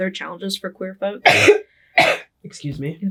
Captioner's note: coughing